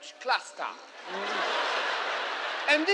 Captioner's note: groans